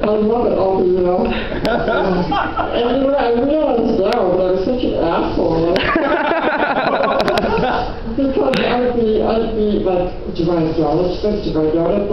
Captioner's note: laughter